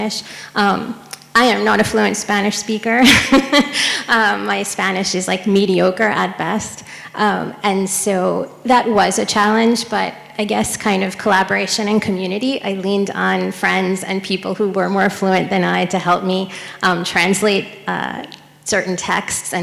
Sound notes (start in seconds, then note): 3.0 laughs